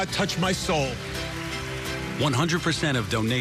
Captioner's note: applauds